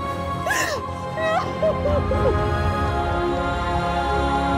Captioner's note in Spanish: Sollozos